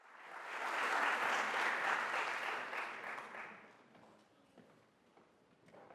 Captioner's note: audience applauding